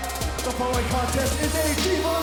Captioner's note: bell ringing